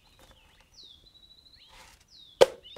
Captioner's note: anti-climactic silence